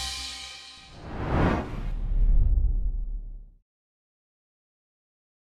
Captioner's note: logo swooshing